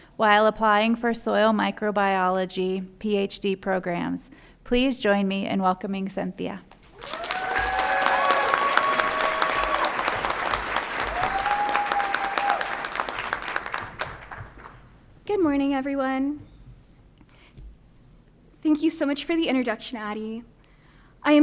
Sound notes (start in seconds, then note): 6.8 audience applauds and cheers